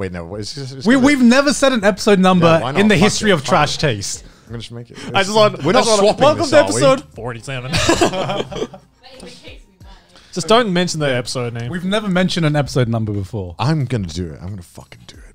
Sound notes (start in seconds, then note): 7.7 everyone laughs